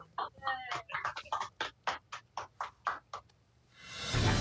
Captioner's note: applause